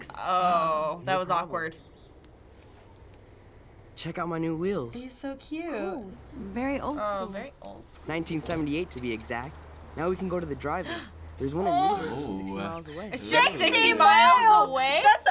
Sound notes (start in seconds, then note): 10.8 gasps